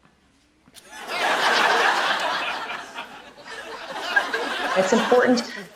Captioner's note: laughter